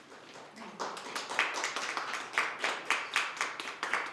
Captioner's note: applause